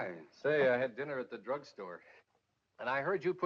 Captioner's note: none